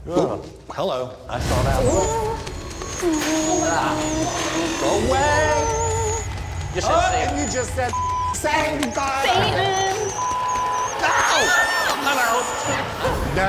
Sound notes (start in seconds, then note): 10.9 yelling